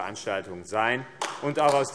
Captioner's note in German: Beifall AfD